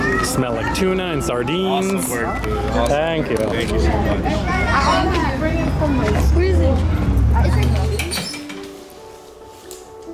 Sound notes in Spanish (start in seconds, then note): 4.5 Charla de fondo